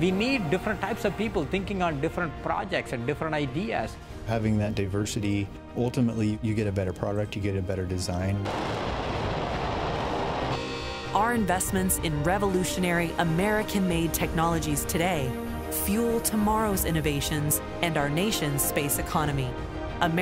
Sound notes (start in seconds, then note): 8.4 rocket whirring